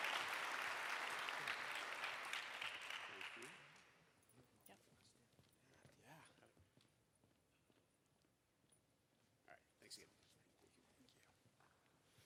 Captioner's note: applause